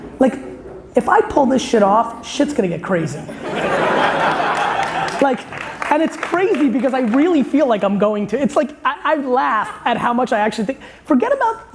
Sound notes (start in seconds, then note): 3.3 laughing